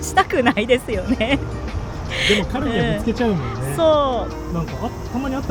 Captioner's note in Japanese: 笑い